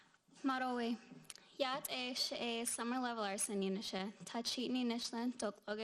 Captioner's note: speaking in foreign language